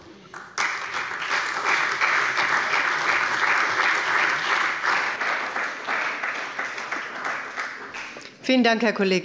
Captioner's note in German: Beifall bei der CDU und dem BÜNDNIS 90/DIE GRÜNEN